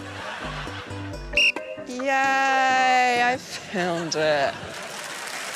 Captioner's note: blows whistle; cheering and applause